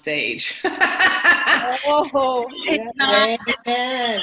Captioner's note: laughs